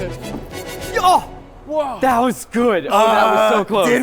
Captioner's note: motivational instrumental music; exclaiming